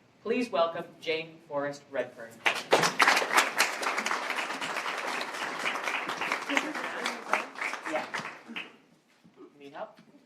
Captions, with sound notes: Please welcome Jane Forrest Redfern. (Applause)